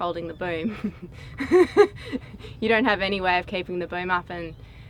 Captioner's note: laughs